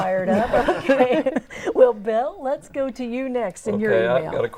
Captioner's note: laughing